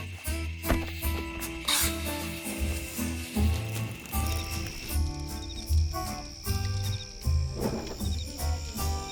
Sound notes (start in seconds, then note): 0.6 match strikes; 0.6 wood thuds; 3.5 fire crackling; 5.2 crickets chirping